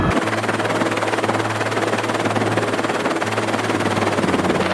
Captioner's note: helicopter whirring